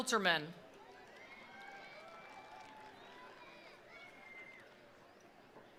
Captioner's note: attendees applauding